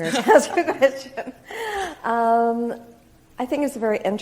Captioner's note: both laugh